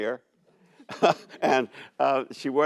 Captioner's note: laughs